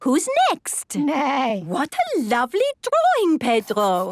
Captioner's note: neighing